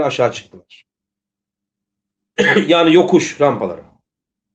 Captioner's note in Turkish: boğazını temizler